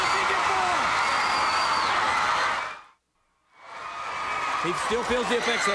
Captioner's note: audience cheering